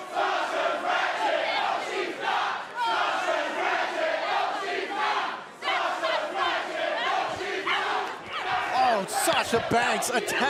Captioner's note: fans chanting